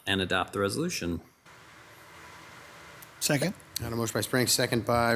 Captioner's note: none